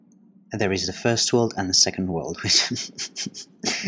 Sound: desperate chuckle

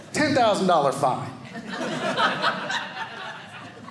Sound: audience laughing

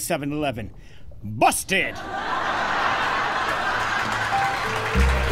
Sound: studio audience laughing; calming piano; studio audience clapping

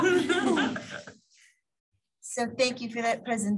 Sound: laughter

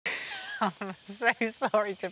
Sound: laughs

